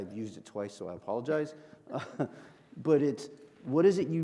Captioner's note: chuckles